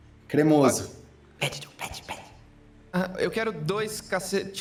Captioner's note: whispering